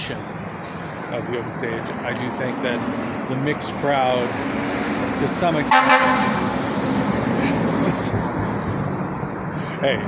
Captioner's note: loud fire truck horn